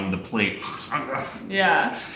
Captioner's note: grunting